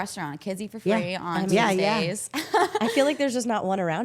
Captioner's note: laughs